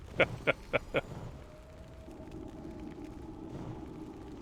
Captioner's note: laughing